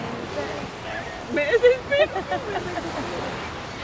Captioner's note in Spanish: todas cantando; gaviotas y olas; risas y cantando; gaviotas y olas